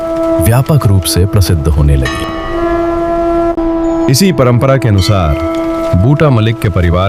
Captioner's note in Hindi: घंटी की आवाज़